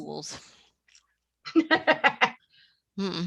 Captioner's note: laughs